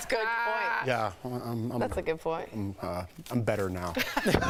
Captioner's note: laughter